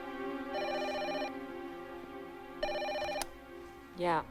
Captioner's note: phone rings